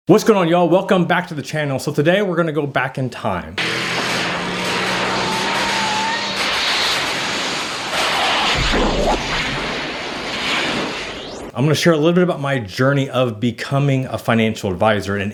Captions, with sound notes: - What's going on y'all? Welcome back to the channel. So today we're gonna go back in time. (engine revs) (metal clangs) (air whooshes) I'm gonna share a little bit about my journey of becoming a financial advisor.